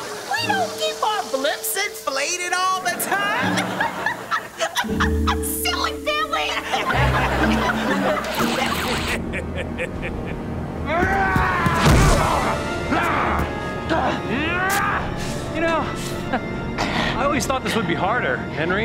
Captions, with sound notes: We don't keep our blimps inflated all the time. [laughing] Silly Billy. [laughing] [laughing] [grunting] You know, I always thought this would be harder, Henry.